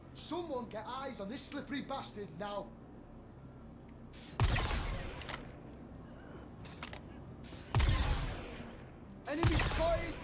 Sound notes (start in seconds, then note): 4.3 gun firing